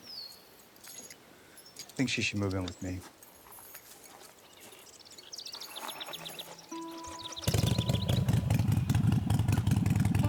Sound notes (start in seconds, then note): 6.7 motorcycle starts